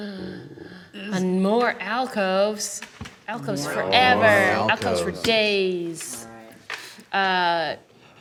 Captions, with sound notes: (gasps) - And more alcoves. Alcoves forever, alcoves for days.